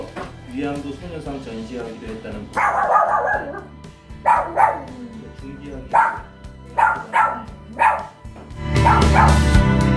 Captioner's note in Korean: 강아지 소리가